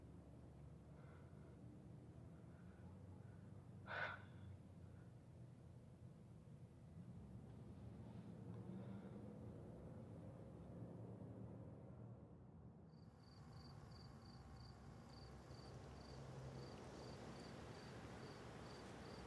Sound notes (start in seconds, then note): 12.9 crickets chirping